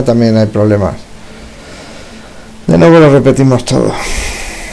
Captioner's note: tired sigh